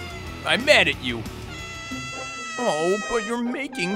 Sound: whining

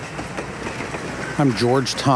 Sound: train sounds

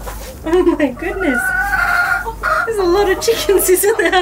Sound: chickens cackling

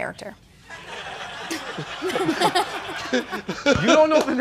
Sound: laughter

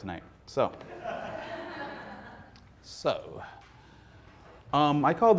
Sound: audience laughing

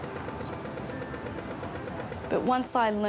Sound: pedestrian signal beeps

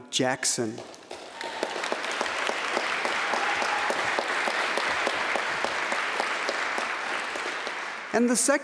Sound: applause

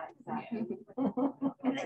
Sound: laughter

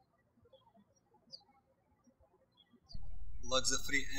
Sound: birds chirping

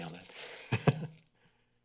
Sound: chuckles

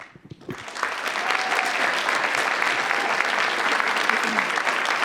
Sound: audience applauding

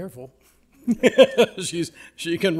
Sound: laughing

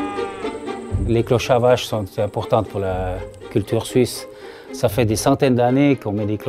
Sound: bouncy string music; speaking in foreign language

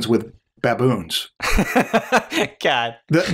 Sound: laughter

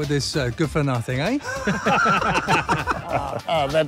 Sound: everyone laughs

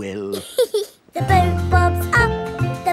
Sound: giggles

